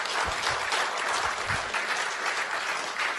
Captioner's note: applause